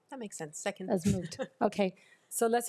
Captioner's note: laughs